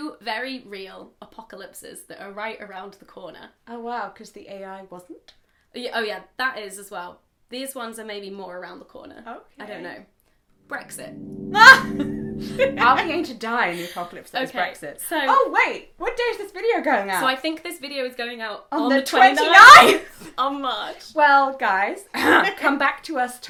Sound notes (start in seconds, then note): 11.8 laughing